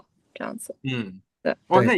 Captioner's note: nonverbal grunt as interjection